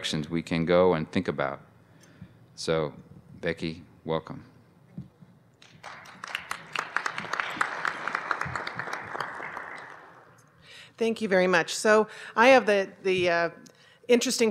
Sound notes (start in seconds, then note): 5.6 applause